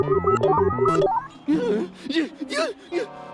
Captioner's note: whimpers; grunts